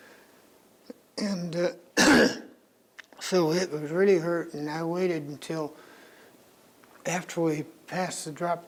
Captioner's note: coughs